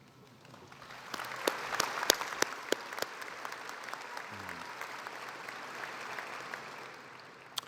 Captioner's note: applause